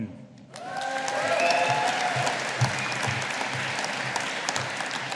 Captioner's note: audience applauding